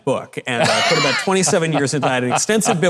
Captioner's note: Mike laughing